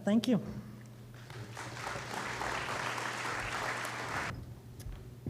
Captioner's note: applause